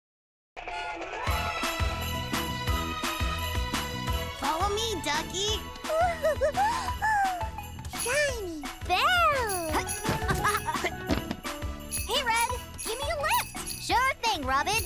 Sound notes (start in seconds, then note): 0.3 upbeat music; 5.8 chuckling; 9.7 laughing; 10.6 christmas music